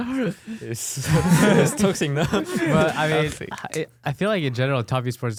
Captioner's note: laughs